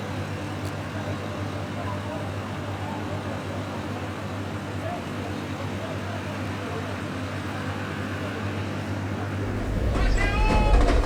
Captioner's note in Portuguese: som de carros